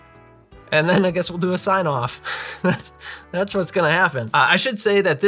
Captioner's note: laugher